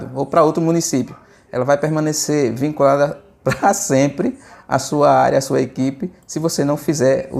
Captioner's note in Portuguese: risadas